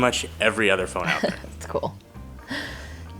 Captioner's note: laughs